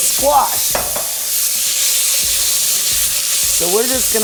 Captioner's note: oil sizzling